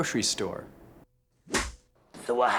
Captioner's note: slate clap